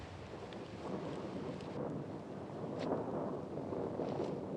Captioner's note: thunder continues rumbling